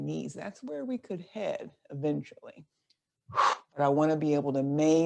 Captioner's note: exhales loudly